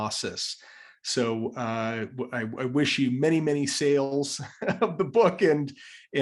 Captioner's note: laugh